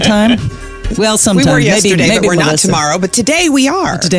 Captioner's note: laughs